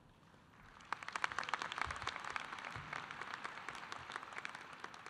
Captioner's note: audience applauding